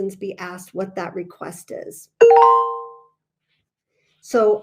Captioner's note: computer chiming